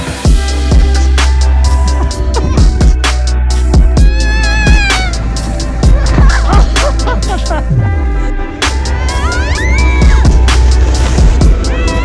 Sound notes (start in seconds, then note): 0.2 upbeat music; 4.0 screams; 5.8 laughs; 9.0 screams